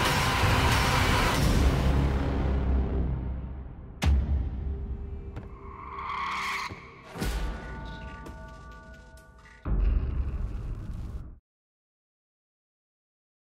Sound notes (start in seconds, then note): 6.4 bell ringing